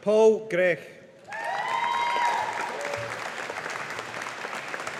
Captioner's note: audience applauding